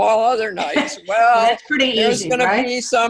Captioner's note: laugh